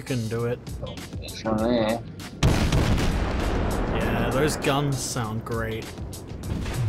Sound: boom boom boom

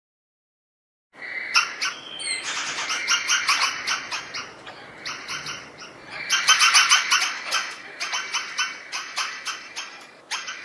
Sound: sound of horror birds

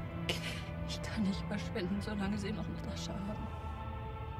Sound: sobbing

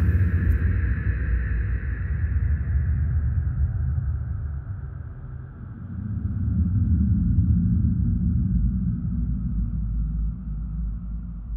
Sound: spooky soundscape

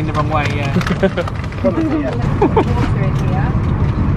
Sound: laughs

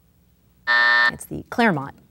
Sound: buzz

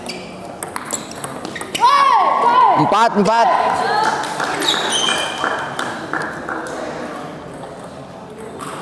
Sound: applause

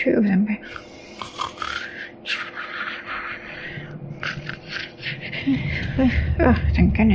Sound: snores

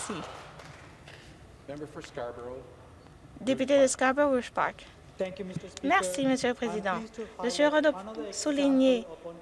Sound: applause

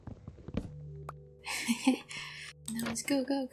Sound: laughter

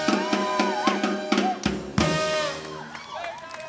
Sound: cheering and applause

